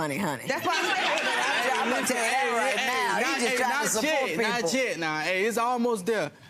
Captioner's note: audience laughter drowns out the conversation